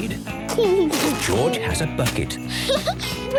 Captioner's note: giggling; Peppa laughing; giggling